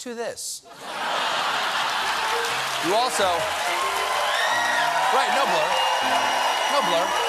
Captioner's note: laughter; cheers and applause; piano riff